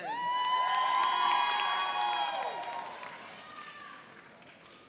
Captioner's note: cheering and applauding